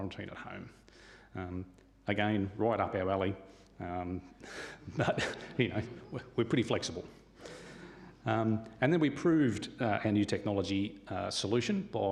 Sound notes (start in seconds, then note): 4.8 chuckles